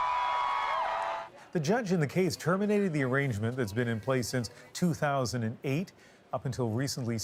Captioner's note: cheers and applause